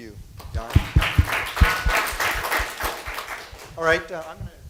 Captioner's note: applause